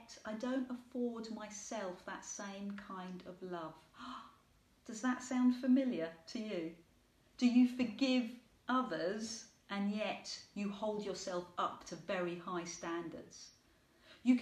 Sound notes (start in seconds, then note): 4.1 gasps